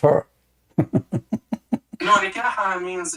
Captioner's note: Ketawa